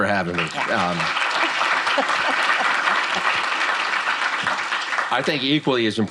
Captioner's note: applause